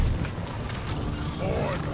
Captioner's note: none